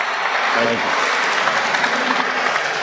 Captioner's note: applause